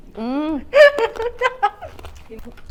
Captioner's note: laughs